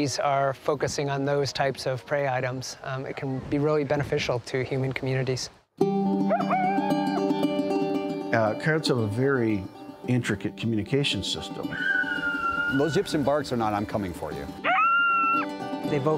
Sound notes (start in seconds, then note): 6.3 howling; 14.6 howls